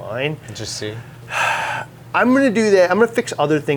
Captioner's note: sighs